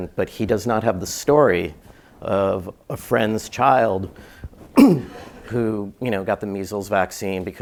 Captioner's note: cough